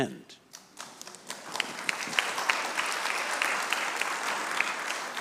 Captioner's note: audience clapping